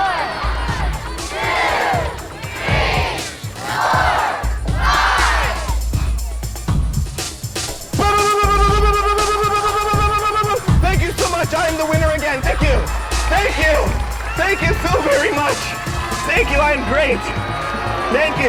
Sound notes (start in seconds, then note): 0.0 audience laughing; 8.0 mimicking a gunfire